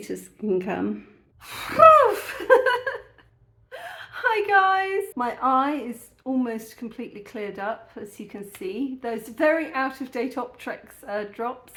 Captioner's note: laughing